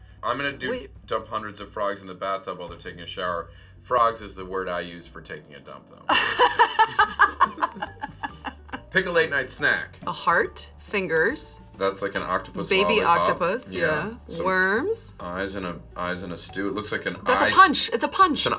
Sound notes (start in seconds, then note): 6.1 Charlize laughs